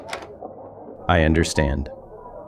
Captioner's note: SFX: door opens, lobby noise